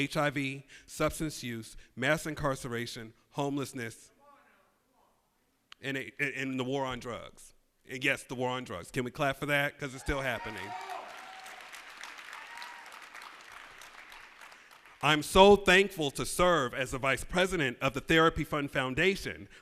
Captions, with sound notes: mass incarceration, homelessness, and the war on drugs. Yes, the war on drugs. Can we clap for that? 'Cause it's still happening. [ Applause ] I'm so thankful to serve as the vice president of the Therapy Fund Foundation, a non-profit organization